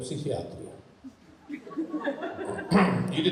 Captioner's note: laughing